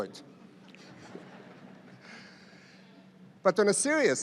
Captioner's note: audience laughs